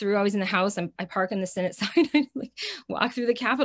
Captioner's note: chuckles